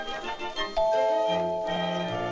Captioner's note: doorbell ringing